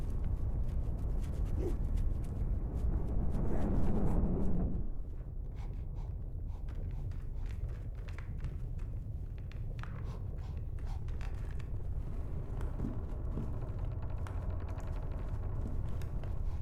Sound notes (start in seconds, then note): 5.7 sniffing; 14.9 ominous creaking